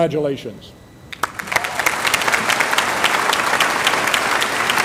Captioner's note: applause